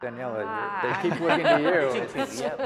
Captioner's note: laughing